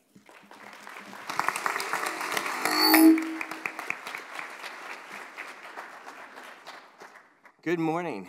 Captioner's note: applause